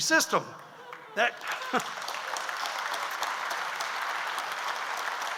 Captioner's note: audience applauds